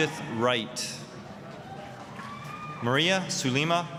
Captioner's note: applause, cheering